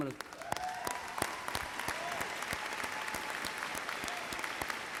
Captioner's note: audience applauds and cheers